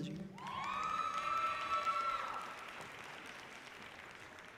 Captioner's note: audience cheering loudly